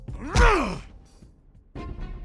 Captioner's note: William shouts; dramatic music